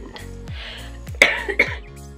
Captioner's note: coughing